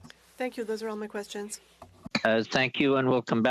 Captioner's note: speaking FRENCH